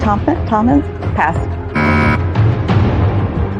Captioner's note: buzzer sounds